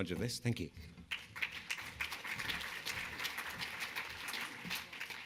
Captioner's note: audience clapping